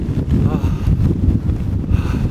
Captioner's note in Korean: 하아